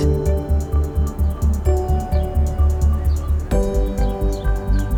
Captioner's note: birds chirpping